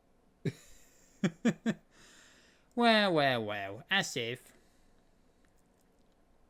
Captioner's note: chuckles